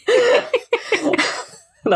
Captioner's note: laughing